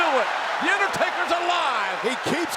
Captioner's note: audience cheers